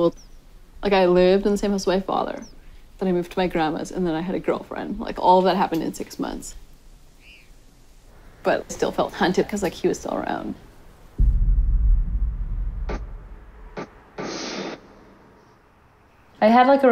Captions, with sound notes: IN HIGH SCHOOL. LIKE I LIVED IN THE SAME HOUSE AS MY FATHER, THEN I MOVED TO MY GRANDMA'S AND THEN I HAD A GIRLFRIEND. LIKE ALL THAT HAPPENED IN SIX MONTHS, BUT I STILL FELT HUNTED 'CAUSE, LIKE, HE WAS STILL AROUND. (DULL BOOMING THUMP, SPITTING SOUND)